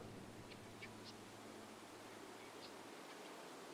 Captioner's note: wind howling